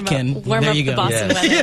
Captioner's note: laughs